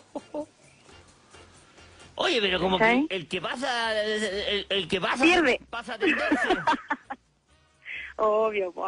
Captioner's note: laughs